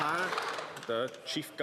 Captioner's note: applause